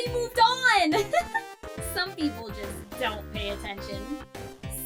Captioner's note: laughs